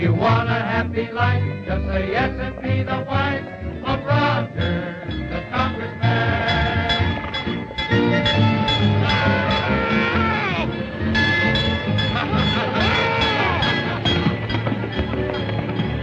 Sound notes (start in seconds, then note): 7.0 bell dinging; 9.5 frog hollering